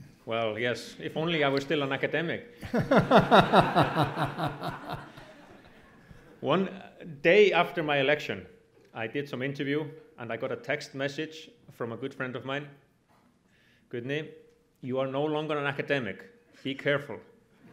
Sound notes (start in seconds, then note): 2.7 audience laughs